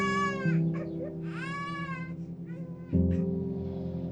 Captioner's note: baby crying